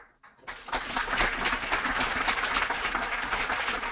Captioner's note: applause